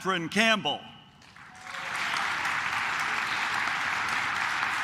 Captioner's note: claps